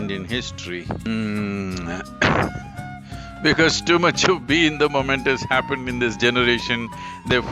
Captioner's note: laughs